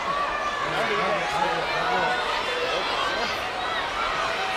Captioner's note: crowd yelling